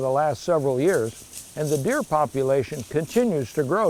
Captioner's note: foliage rustles